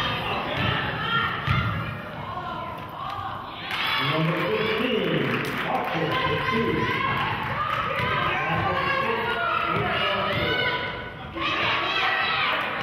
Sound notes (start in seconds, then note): 3.6 cheering and clapping; 8.3 murmurs